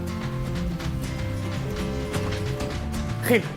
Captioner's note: happy music continues; telephone ringing